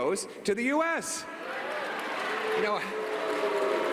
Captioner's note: booing